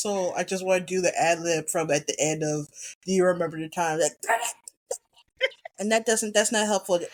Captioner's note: laughs